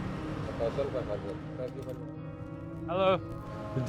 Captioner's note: person speaks in a foreign language